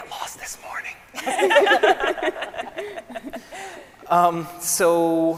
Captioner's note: scientists laughing